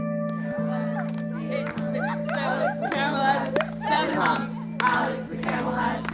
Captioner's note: chatter, singing, laughter